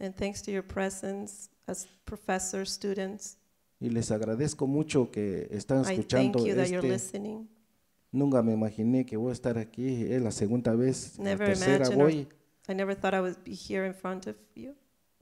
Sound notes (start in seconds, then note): 3.8 speaks in foreign language; 8.3 speaks in foreign language